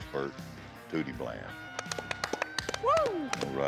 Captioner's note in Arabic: تصفيق، هتافات